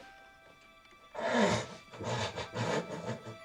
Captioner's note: laughing